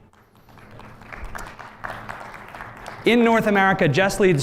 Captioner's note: applause